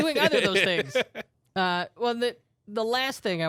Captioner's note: laughs